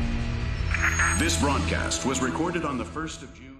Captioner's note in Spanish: radio